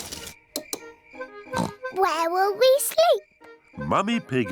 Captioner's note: oinks